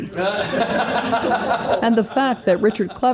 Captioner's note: laughter